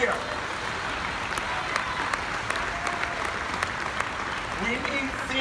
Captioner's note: audience applauding